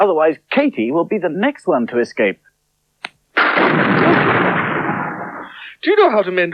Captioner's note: sound Of Thunder